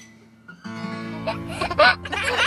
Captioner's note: baby laughing